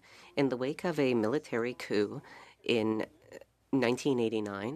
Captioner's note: speaking French